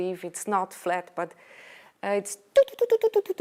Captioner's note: humming